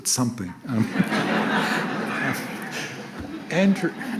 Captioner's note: audience laughs